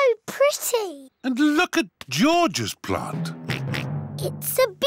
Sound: oinks

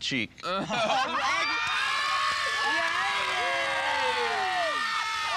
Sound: shouting

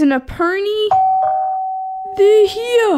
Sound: doorbell

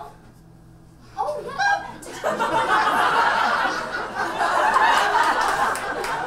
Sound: audience laughs

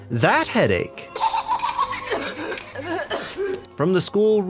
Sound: billy laughing and perez coughing

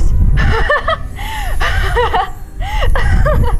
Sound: laughter and sounds of magic

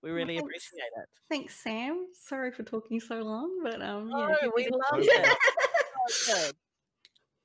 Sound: laughs

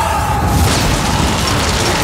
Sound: explosion sound

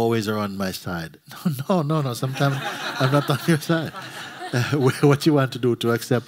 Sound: laughter

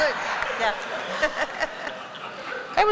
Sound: laughter

